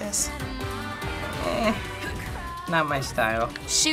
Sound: grumbling

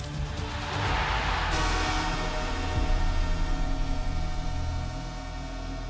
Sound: crowd cheering; goal horn plays

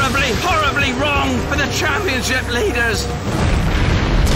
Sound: voice breaking

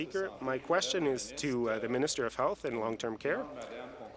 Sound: speaking in French

